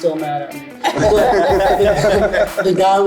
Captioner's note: group laughs